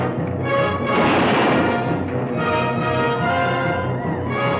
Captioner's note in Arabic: موسيقى أوركسترالية درامية; اطلاق نار